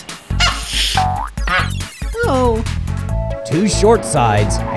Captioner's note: clunks; groans